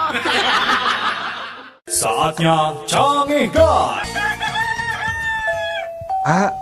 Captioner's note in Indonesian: tertawa